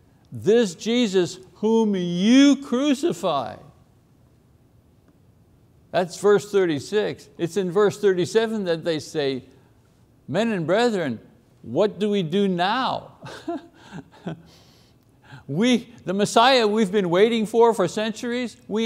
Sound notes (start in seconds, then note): 13.2 laughs